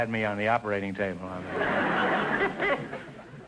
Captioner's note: audience laughter